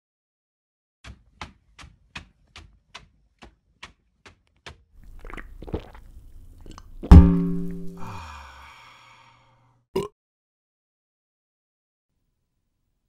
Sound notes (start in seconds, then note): 5.0 slurp, Gulp; 7.0 boing; 9.9 burp